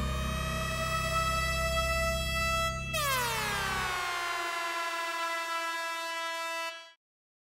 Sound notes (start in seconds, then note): 0.0 alarm blaring